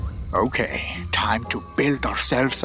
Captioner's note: none